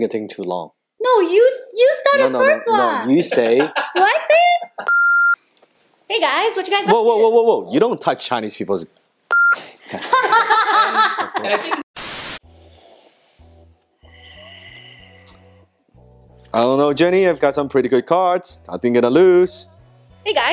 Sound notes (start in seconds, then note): 4.8 beep; 9.3 beep; 9.9 laughing; 12.4 inhaling loudly; 14.3 exhaling loudly